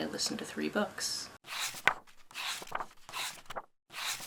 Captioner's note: pages turning